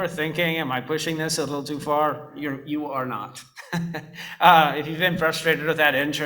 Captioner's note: laughs